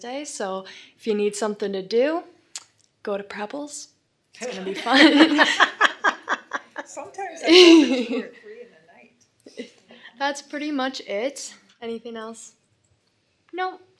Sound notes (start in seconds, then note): 4.4 laughing